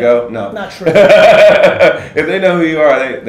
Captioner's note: laughs